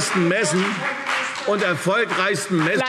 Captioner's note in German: Fortgesetzt Zurufe